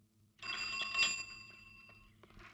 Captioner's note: cycle bell rings